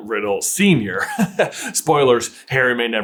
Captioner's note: chuckles